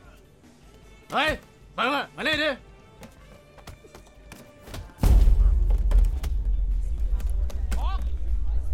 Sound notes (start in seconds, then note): 1.0 Malay Language; 7.5 Malay Language